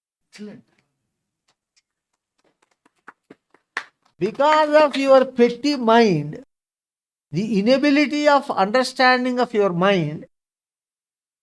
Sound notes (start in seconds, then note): 1.8 claps